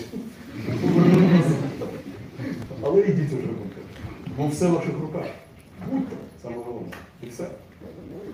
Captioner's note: laughter in the hall